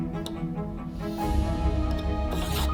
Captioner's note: finger taps; drawer scrapes